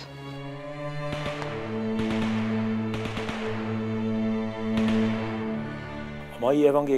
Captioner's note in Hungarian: zene, lövések